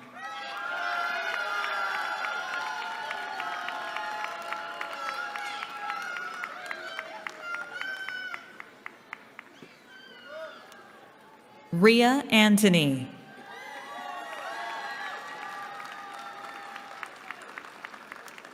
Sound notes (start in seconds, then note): 0.0 cheering; 13.2 cheering